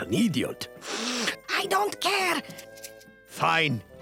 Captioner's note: sniffing